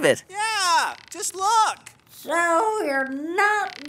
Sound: voice echoing inside cannon

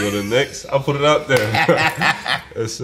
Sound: hands slap; Spike laughs

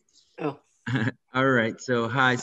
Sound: chukles

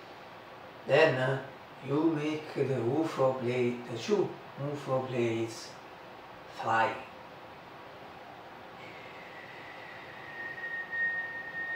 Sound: whistle

